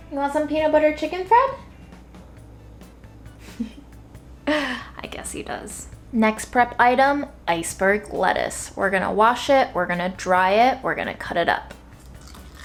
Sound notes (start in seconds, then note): 3.4 chuckles